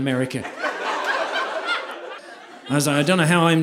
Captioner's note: audience laughing